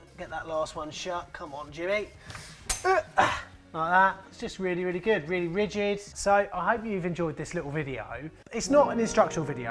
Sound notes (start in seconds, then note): 2.8 grunts